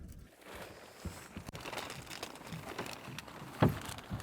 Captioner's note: tarp crinkling